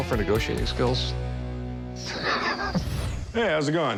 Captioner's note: laughs